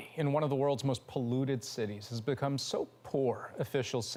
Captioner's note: none